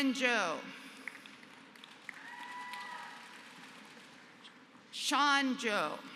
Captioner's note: applause